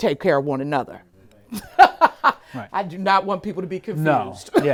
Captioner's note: laughs